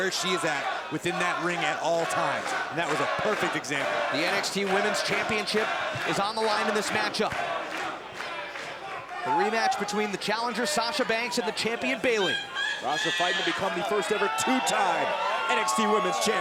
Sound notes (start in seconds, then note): 5.2 crowd cheering; 8.9 crowd cheering; 10.7 crowd chatter; 15.0 crowd chatter